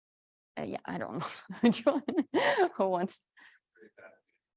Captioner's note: laughs